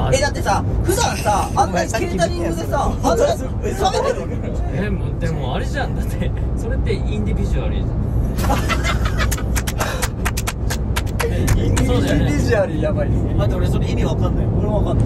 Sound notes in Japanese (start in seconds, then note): 9.2 拍手